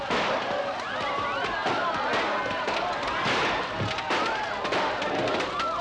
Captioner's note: firecrackers crackling